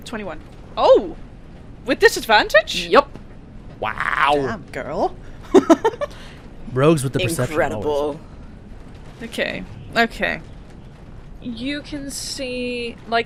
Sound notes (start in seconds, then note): 3.9 laughs